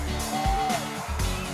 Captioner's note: fan cheers; upbeat music